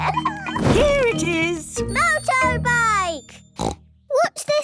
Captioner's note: snort